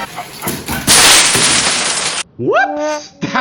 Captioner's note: train Crashing